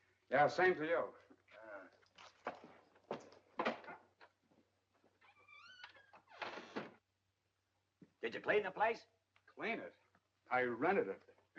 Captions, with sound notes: - Yeah, same to you! - Yeah. (door opens) (door squeaks shut) - Did you clean the place? - Clean it? I rented it.